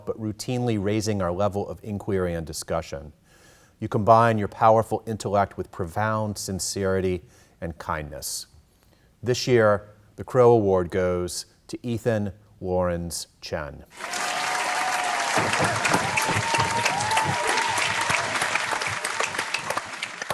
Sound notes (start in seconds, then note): 13.9 cheering